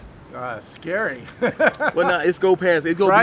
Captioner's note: laughing